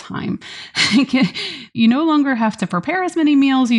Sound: laughs

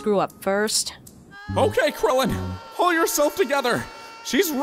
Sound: screaming from a distance

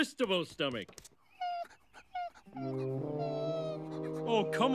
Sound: whimpering

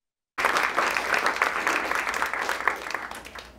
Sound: applause

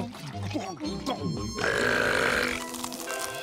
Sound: both belching

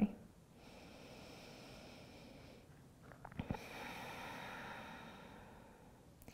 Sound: breathing

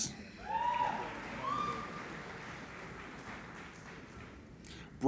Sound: applauding and cheering

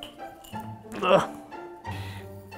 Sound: grunts

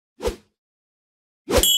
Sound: whoosh

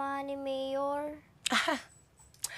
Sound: snickers

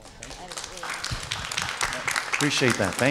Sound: audience claps

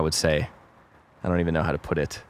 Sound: none

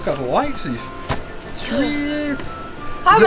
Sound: feet stomps

